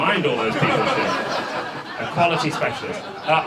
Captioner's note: audience laughs